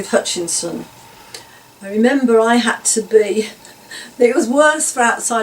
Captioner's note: laughs